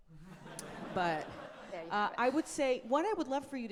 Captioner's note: audience laughing